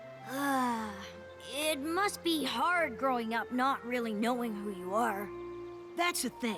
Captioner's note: sigh